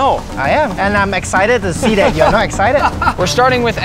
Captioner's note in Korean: 웃음